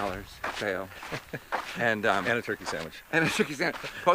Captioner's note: chuckles